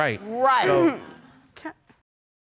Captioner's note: clears throat and stammers